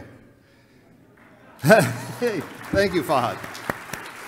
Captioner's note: laughs